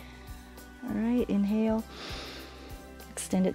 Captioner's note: exhales; inhales